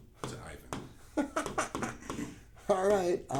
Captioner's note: chuckling